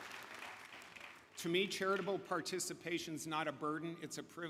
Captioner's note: applause